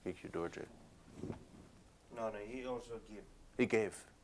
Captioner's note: non-english speech